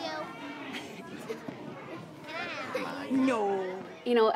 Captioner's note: laughing